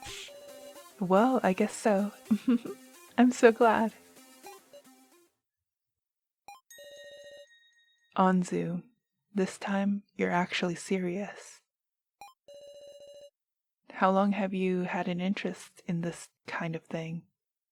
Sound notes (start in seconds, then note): 2.2 giggles